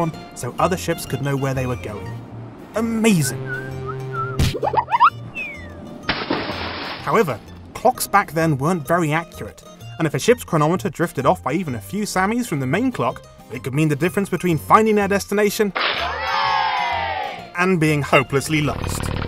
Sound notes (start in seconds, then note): 3.4 whistling; 4.2 smack; 6.0 splash; 15.8 people cheering